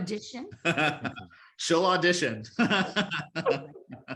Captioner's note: laughter